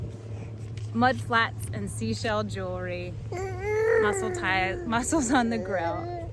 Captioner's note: gurgling